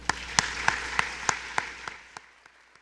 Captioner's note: applause